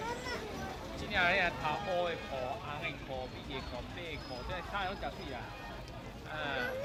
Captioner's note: street sounds and people talking